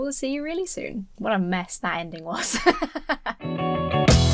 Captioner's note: laughs; upbeat rock music